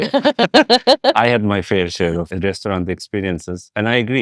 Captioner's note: laughing